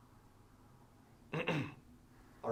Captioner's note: clears throat